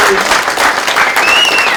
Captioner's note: applause